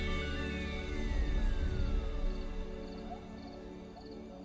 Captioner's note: mellow celestial music plays; insects chirping softly